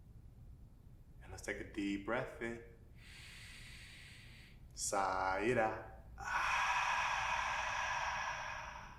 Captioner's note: inward breath; outward breath